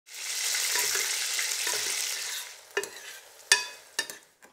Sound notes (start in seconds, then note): 0.0 sizzling sound